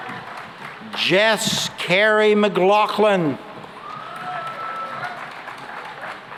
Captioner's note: cheering and applause